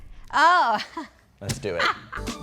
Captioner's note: laughs; laughing